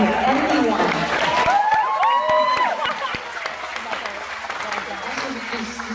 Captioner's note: applause & laughs